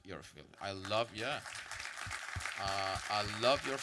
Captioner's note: audience applause